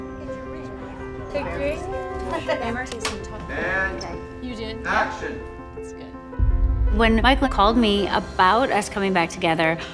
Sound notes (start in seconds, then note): 0.1 chattering